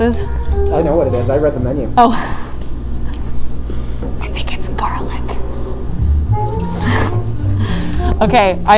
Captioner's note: whispers